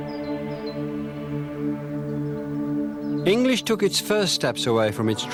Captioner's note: chanting